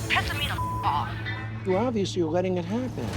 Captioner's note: beep